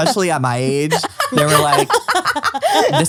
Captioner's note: laughs